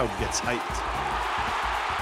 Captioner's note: crowd screaming